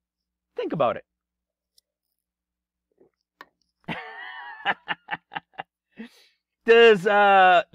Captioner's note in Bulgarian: Смях